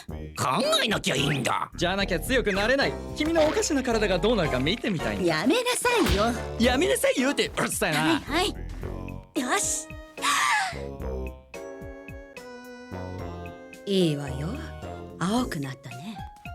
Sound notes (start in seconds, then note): 6.0 falsetto; 10.1 inhales deeply